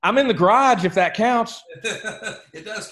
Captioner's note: laughs